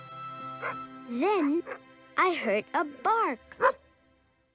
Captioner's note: dog barking